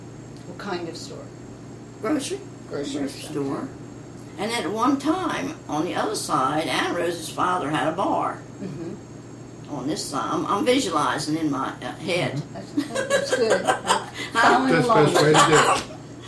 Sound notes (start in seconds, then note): 12.8 laughs